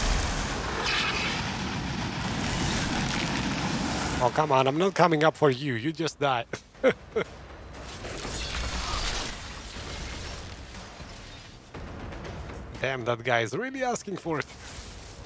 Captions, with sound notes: Oh, come on. I'm not coming up for you. You just die. (Laughs) Damn, that guy is really asking for it!